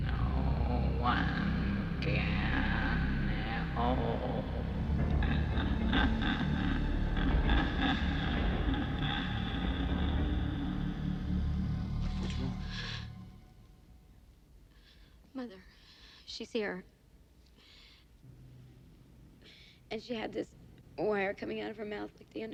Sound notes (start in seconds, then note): 5.2 Mrs. Roshak laughing; 12.5 Katherine gasping; 17.5 breathes uneasily